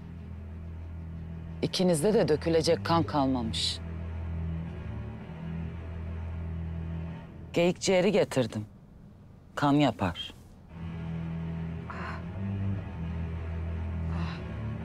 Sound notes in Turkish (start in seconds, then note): none